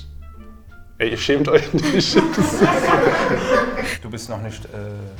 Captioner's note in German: Gruppe lacht